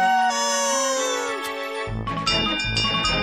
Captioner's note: bell clanging